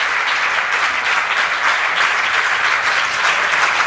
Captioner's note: applause